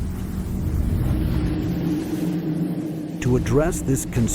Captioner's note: UFO whirs